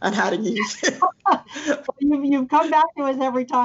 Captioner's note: laughing